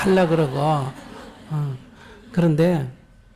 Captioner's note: audience laughter